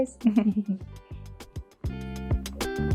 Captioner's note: chuckles; upbeat ambient music